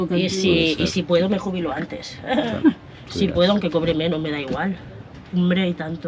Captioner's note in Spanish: risas